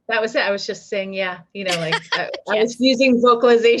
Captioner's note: laughing